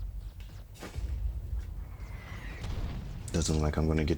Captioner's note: distant gunfire popping